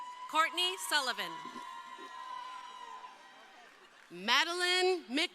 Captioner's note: crowd cheering